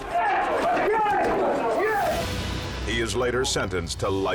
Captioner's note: men chanting